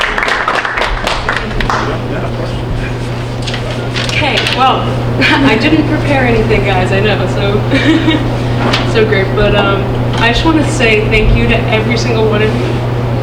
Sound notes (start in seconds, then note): 7.4 laughs